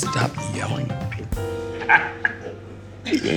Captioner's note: laughing